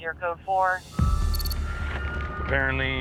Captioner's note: siren